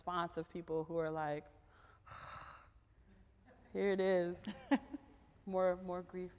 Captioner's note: sighs